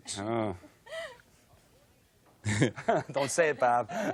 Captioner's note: chuckles